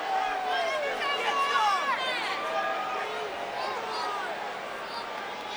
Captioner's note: crowd murmuring